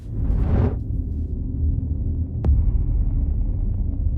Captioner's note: wind whooshes